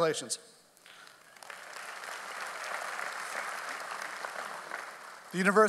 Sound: audience applauds

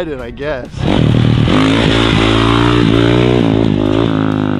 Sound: engine revving

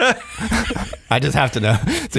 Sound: laughing

